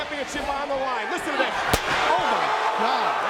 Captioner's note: steel chair thudding